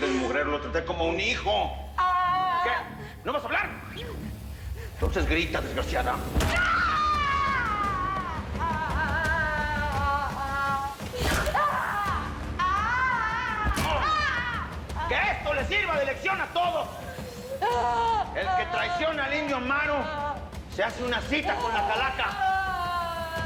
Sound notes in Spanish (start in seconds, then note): 3.5 Quejidos; 7.5 Golpes; 8.9 Gritos; 12.1 Quejidos; 18.0 Quejidos